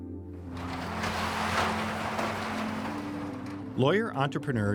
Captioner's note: garage opening